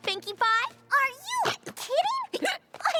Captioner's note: hiccups